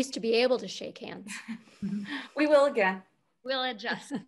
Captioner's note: chuckles